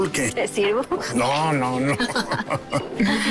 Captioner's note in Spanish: Risas